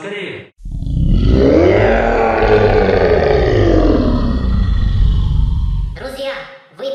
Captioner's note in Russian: ужасно-ужасное рычание